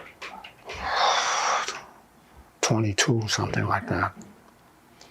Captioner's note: sighing